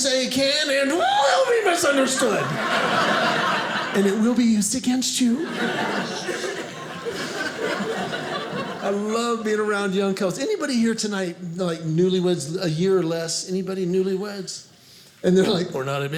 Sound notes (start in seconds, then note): 1.4 audience laughing